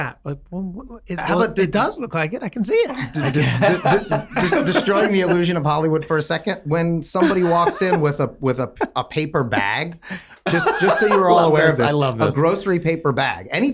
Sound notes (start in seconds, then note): 2.9 both laughing